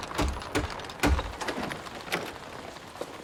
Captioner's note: knocking on door